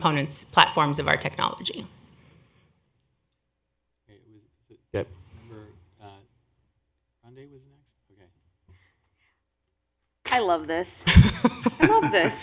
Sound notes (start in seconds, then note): 2.3 off mic; 11.0 laughter